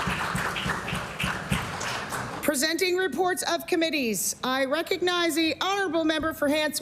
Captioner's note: applause